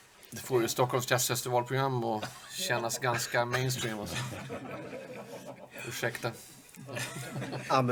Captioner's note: laugh